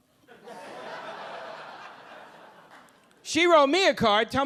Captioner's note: audience laughing